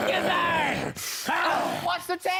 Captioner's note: growling; roaring